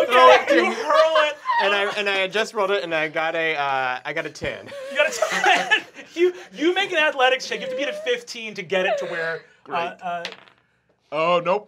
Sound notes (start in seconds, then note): 4.6 laughing